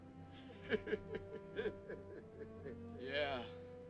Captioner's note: laughing